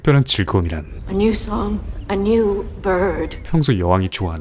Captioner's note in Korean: 새로운 새의 지저귐입니다